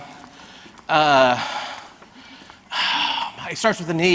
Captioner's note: panting